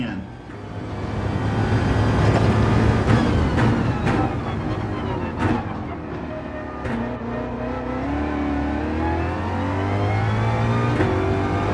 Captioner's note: engines revving, tyres grip, racing sounds